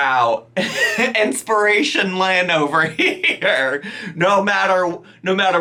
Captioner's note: laughs